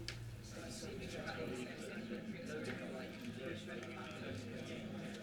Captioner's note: low chatter